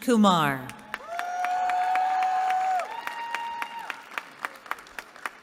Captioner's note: cheering